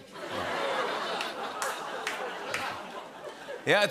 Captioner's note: laughter